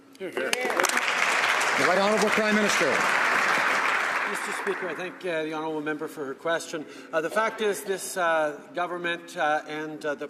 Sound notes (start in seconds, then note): 3.5 some Applause